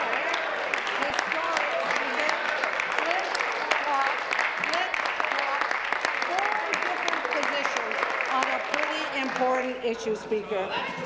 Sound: applause

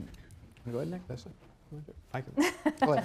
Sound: laughs

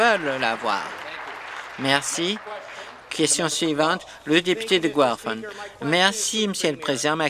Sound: some Applause

